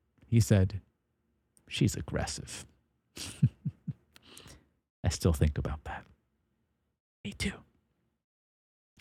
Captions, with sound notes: He said, she's aggressive. (Laughs) I still think about that. Me too.